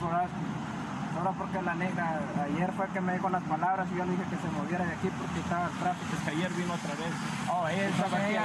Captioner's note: speaking spanish; officer speaking Spanish